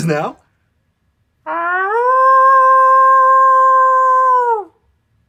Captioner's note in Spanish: aullido